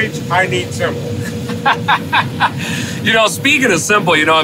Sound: laughs

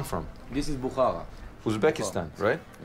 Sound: speaking in foreign language

